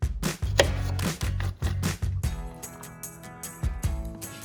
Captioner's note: knife thumps